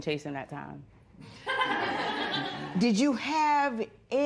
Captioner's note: laughter